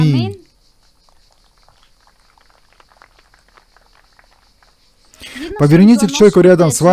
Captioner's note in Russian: Аплодисменты